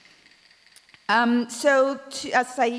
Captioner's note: clap sticks rattle